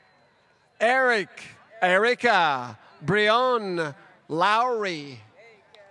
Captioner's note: applause